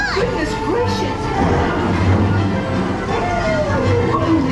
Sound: thunder booms

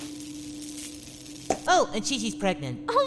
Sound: pop!

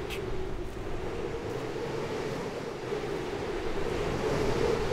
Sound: strong wind sounds

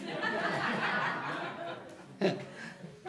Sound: laughing

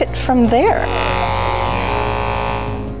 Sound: clippers buzzing

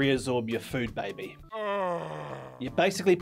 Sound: inhuman moaning

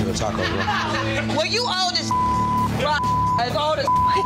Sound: beep

